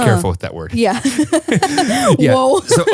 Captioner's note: laughs